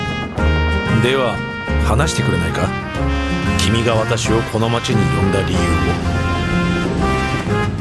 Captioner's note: Japonês - mantido no original